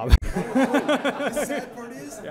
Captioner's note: laughter